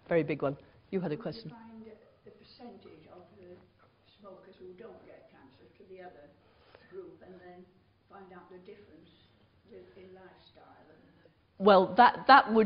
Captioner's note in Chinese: 無聲